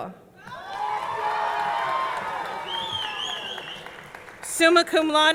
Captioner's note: audience cheering; audience clapping